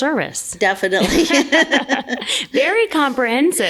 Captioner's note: laughs